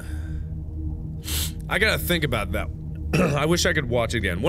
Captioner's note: sniff